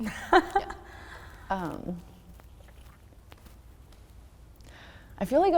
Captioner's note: laughs